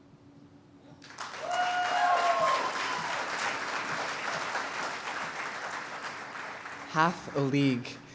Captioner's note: cheers and applause